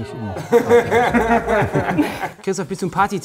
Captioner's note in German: Lachen